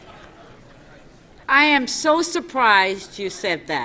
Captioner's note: laughter